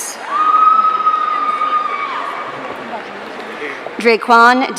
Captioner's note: audience cheering